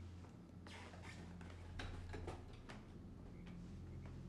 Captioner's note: clattering